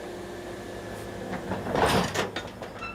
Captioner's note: clattering